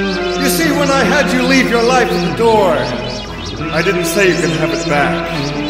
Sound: none

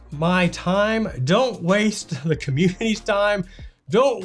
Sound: chuckles

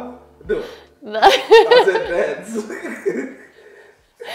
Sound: laugh; laughs

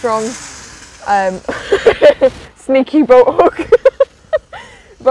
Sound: laughs

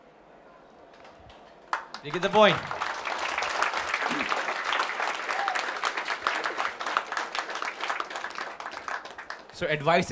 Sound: applause

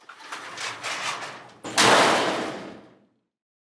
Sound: garage door slamming

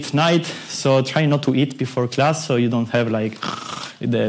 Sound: snore

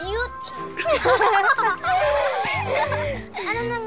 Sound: laughter

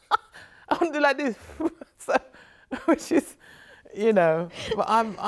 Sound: laughs; sighs

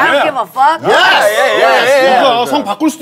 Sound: sound of cheering

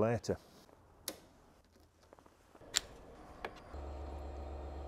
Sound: switch clicks

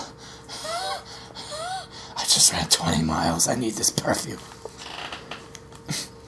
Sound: gasping

